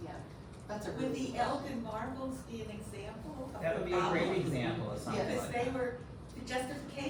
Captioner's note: audience member speaking